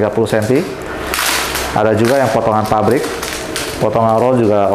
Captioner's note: plastic sound